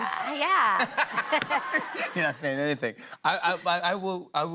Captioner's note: laughter